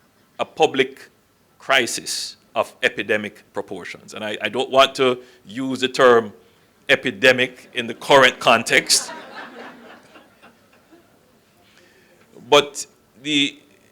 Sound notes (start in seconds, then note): 9.5 laughter